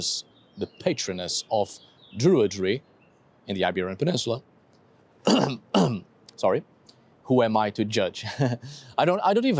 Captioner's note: clears throat